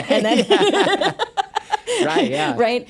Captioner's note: both laughs